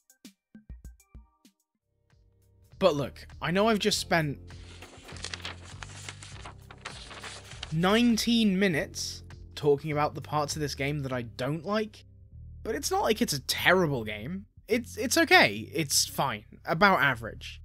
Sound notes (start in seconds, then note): 4.4 paper rustling